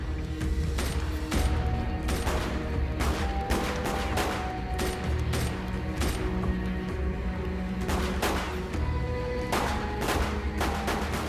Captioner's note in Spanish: Disparos